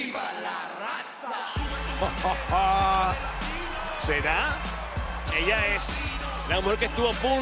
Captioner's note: laugh